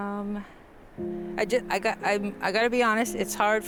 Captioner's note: splutters